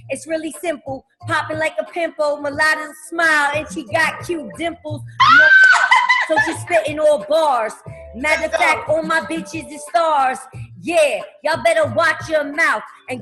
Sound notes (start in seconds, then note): 5.2 squeals